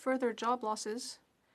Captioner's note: speaking French